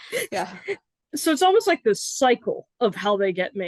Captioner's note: laughs